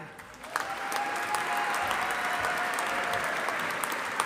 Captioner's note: audience applauding